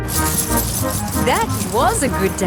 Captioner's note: coins jingling